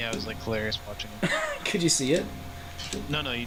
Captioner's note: laughing